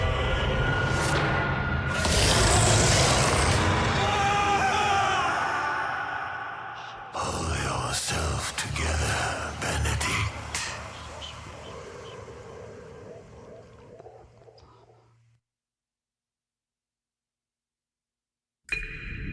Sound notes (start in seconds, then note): 1.9 roars; 5.5 yells